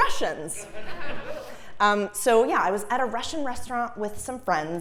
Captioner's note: laugh